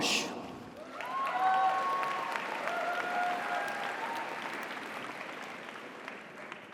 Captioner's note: audience applauds; audience cheers